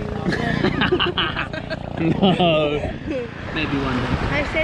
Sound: they laugh

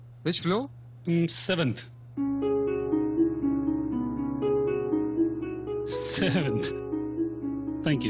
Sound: laughing

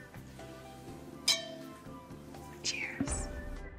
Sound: glasses clinking

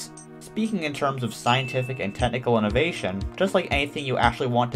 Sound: ding

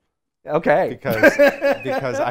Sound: laughs

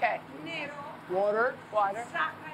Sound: speaking Greek

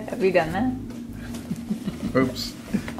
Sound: laugh

